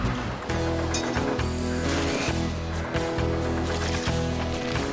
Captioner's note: engines Running